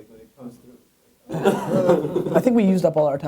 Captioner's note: laughing